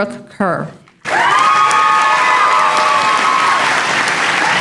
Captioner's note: applause